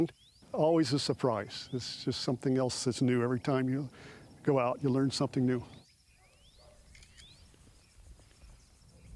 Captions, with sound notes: Always a surprise. It's just something else that's new. Every time you go out, you learn something new. [camera shutter sound]